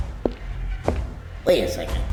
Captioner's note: distant metallic footsteps